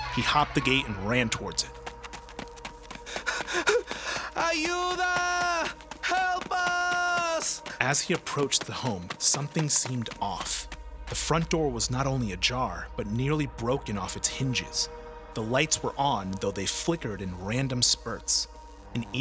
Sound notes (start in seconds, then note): 4.5 speaking Spanish